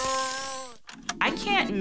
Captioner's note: whale whistling